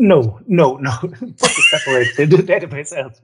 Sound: laughs

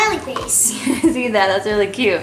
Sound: laughing

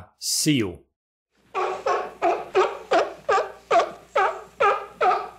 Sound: sealing barking

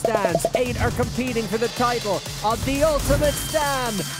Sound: bell ringing

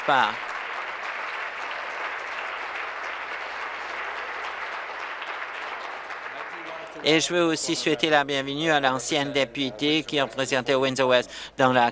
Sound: applause

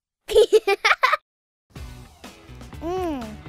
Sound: sound of giggling

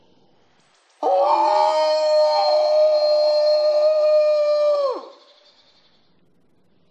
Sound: morgan howling

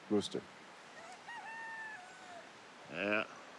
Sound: rooster crowing

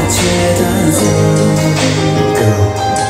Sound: kiss

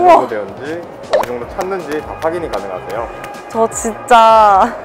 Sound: clap

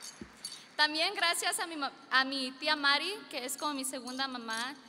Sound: speaking foreign language

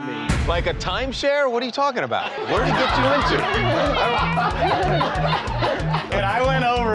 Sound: laughter

